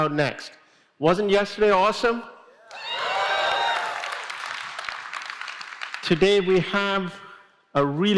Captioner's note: applause